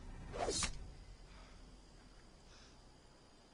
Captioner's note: blade whooshing and fleshy impact